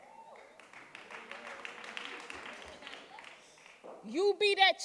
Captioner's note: audience cheering and applauding